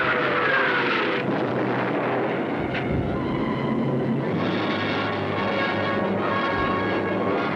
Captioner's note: explosions